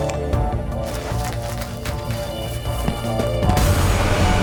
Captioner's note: footsteps pattering